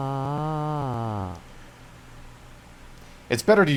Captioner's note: voicebox noises stop